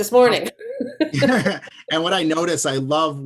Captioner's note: laughs